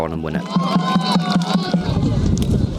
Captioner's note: cheering